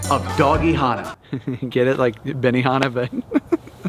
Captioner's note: laughs